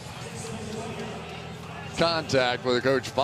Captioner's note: pa announcement